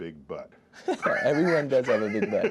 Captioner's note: laughs